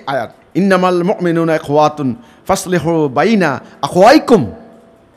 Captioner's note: Arabic